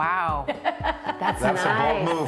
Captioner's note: laughing